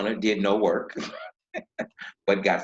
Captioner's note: laughing